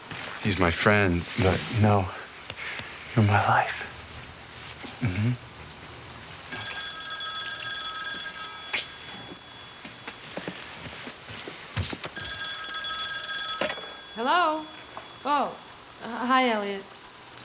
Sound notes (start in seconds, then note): 6.1 phone rings; 11.8 ring